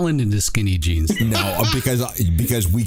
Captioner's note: laughter